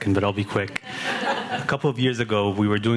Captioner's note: audience laughing